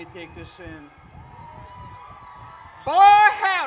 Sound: crowd cheers

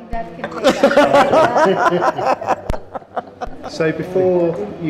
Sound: laughter

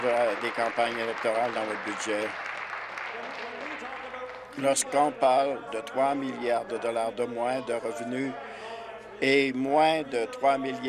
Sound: applause

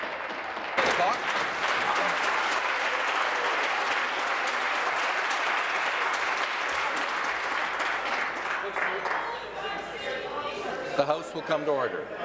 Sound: applause

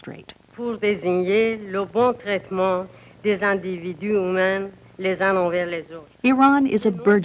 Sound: Speaking Farsi

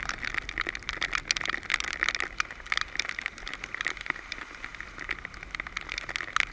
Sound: raindrops

